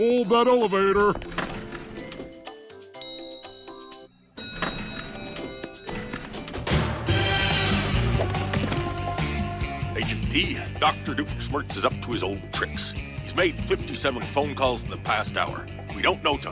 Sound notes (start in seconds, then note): 1.0 doors shut; 2.9 bell dings